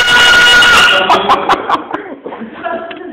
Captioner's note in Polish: śmiech